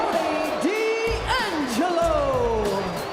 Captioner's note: crowd boos; bell rings